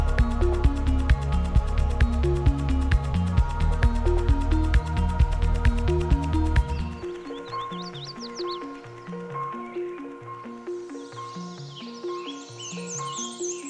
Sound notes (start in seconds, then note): 7.2 birds warbling